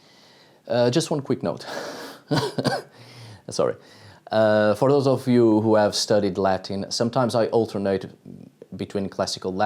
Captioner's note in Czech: kašlu